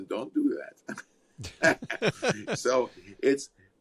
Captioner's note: both laugh